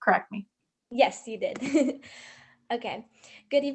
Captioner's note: chuckles